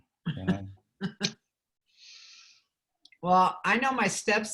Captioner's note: laughs